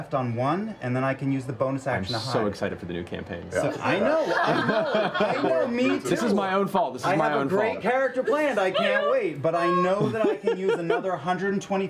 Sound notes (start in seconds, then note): 3.9 laughter